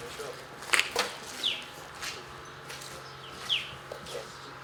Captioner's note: birds chirping